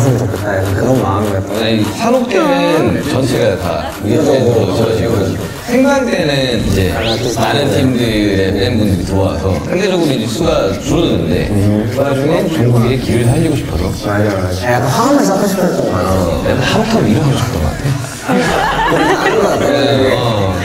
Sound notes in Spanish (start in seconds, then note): 17.7 Ja ja ja